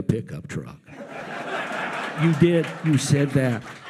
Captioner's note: audience laughs